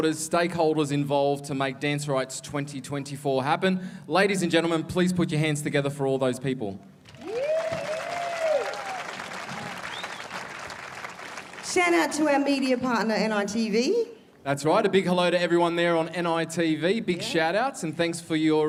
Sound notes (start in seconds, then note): 10.6 applause